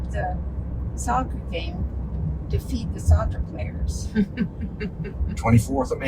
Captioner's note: laughing